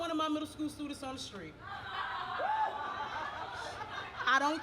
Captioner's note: audience laughs